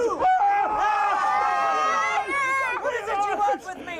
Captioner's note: screams; crowd yelling